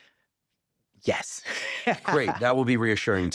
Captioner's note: laughing